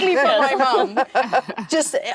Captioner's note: all laughing